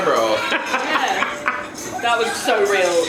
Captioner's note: laughs